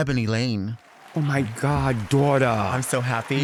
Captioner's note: audience applauding